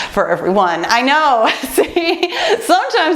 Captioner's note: laughs